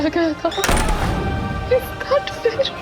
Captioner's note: doors banging